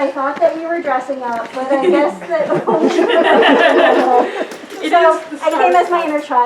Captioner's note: audience laughter